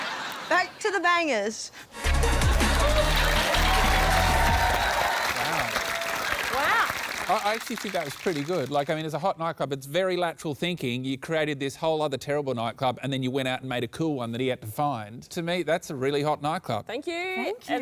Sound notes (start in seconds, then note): 2.0 dance music plays; 2.0 cheering, applause